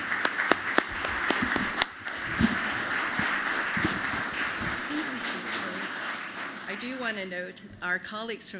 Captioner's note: applause